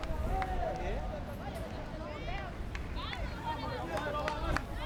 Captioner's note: crowd yelling